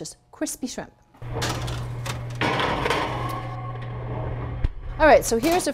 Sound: metal clanking

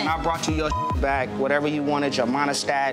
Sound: beep

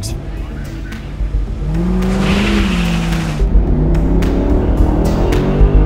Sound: car accelerating

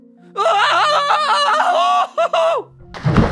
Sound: screaming

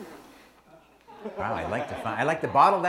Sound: audience laughs

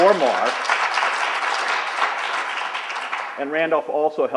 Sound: applauding

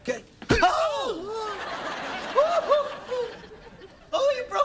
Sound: shouts of pain

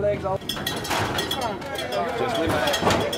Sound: metal clanking quickly

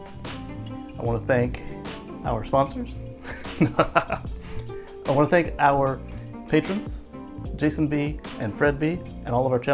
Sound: laughs jokingly

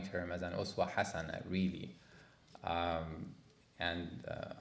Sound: speaking arabic

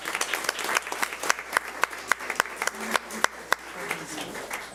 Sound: public applauding

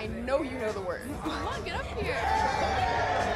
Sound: boys cheering

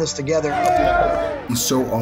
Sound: players cheering

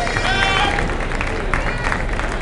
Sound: applause

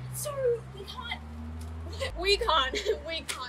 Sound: debbie laughs passive aggressively

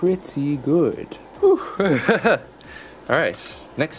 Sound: laughs

